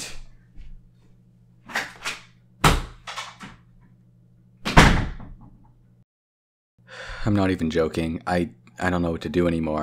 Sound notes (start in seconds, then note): 1.7 door opens; 4.7 door slams